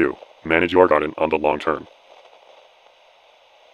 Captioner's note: farmer commercial voice